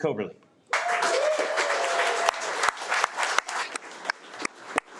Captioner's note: audience applauding